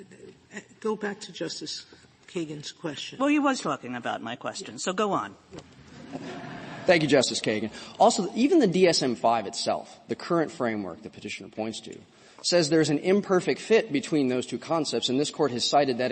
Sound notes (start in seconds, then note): 5.9 laughter